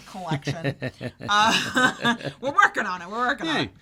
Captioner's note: chuckles